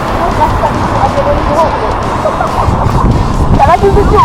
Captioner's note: laugh